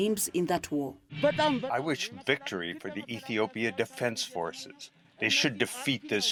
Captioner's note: through translator